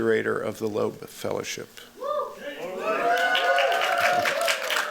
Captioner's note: cheering